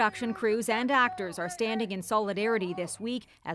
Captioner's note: chanting